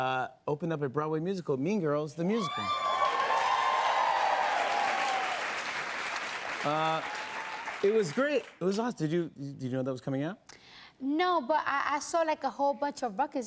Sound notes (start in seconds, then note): 2.4 cheers and applause